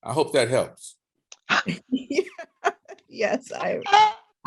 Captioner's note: laughter